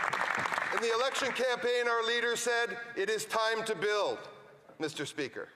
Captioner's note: some Applause